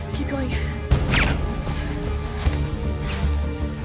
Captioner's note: gun fires